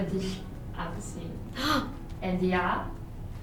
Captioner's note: gaspssss